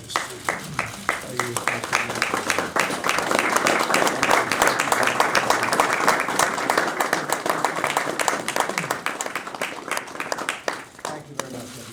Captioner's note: applause